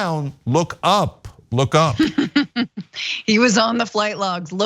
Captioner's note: laugh